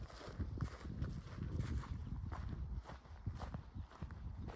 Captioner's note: footsteps